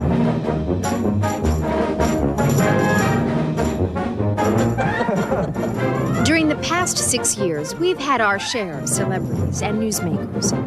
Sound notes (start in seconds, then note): 1.1 lively brass band music; 4.6 laughs